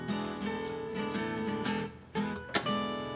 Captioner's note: mouse squeaks; trap twangs